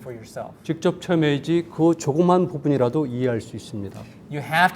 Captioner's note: speaking in Korean